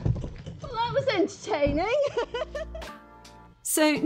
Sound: laughing

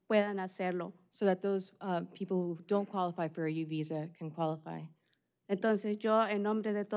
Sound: speaking spanish

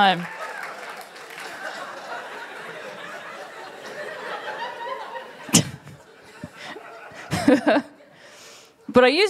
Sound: laughter

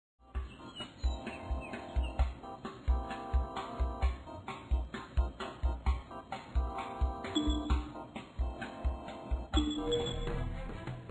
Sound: game sounds

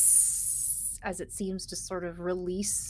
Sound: person hissing

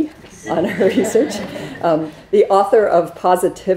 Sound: students laughing

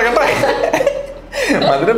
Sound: laughs

